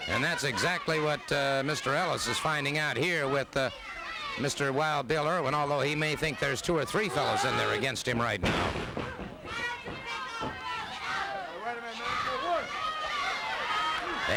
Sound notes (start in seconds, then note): 8.4 body thuds; 10.4 crowd yelling